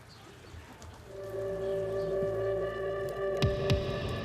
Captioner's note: none